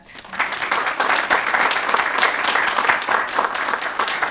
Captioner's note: audience applauds